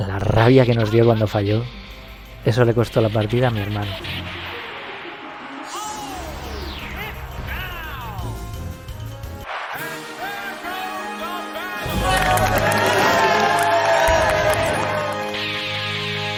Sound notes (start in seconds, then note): 12.1 cheering and applauding